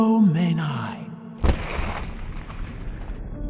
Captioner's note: voice speaking gibberish; crashing